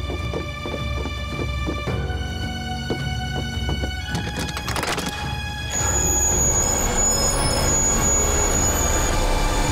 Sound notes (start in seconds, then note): 2.9 cranking; 5.7 screeching